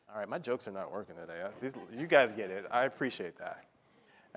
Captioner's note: laughter